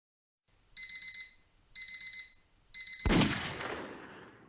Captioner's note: alarm rings and pistol shot